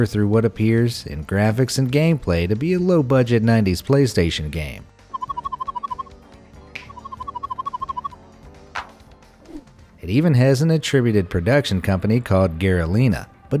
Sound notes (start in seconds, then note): 5.1 game bleeping